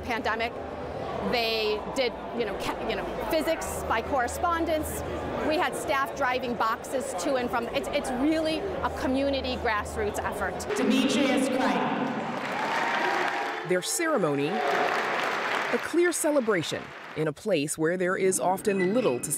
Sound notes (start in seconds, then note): 12.1 voice-over